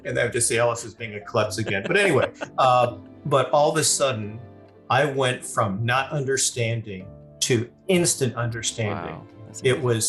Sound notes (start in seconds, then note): 0.0 laughing